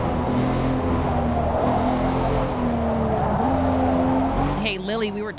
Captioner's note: none